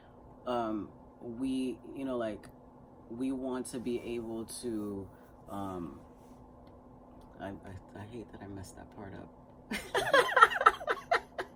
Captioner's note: laughter